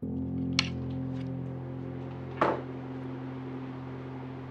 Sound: clanking

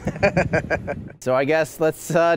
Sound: laughing

